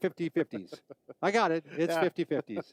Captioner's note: chuckling